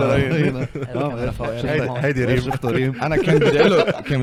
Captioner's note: laughs